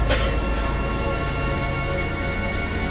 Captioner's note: coughs